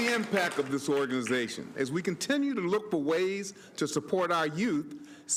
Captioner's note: applause